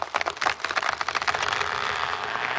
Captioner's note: creaking